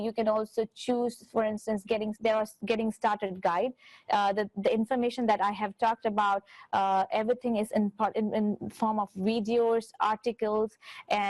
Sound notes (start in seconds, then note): none